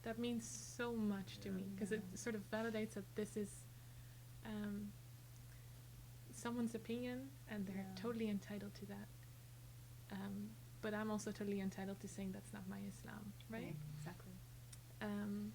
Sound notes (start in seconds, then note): none